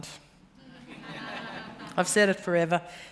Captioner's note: laughter